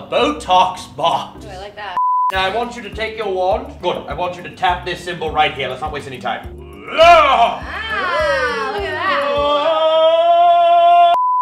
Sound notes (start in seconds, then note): 6.8 man yells magically; 9.4 man sings magically